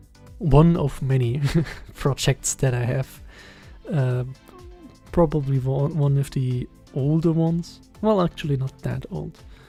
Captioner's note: giggles